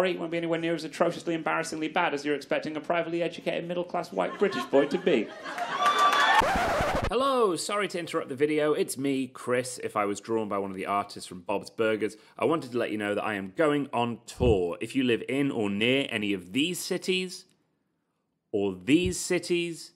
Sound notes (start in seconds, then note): 6.4 record scratches